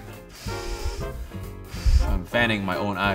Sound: hard exhaling

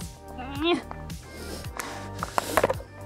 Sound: struggles audibly

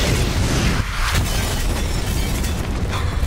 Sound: glass shattering/explosion; explosions

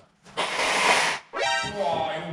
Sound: blows nose

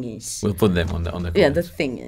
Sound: murmurs

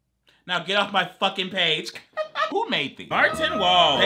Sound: laughs

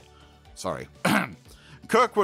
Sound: cough

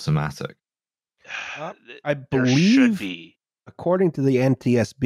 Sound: sighs

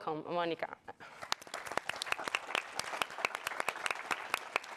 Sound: audience applauds

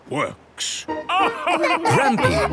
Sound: all laugh

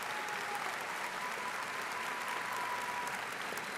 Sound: audience applauding

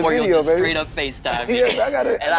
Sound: laughs

